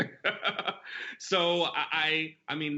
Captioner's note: laughter